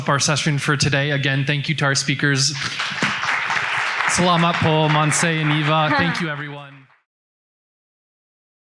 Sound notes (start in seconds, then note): 2.5 audience clapping; 4.1 speaking in foreign language; 5.7 laughing